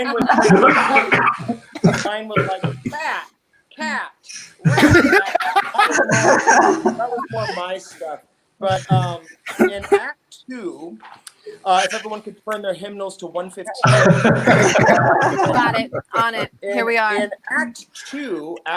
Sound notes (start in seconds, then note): 13.8 participants laughing